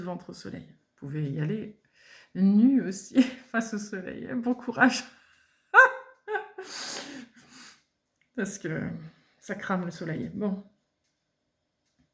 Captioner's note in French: rires